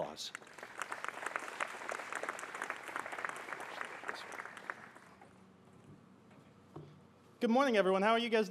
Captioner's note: applause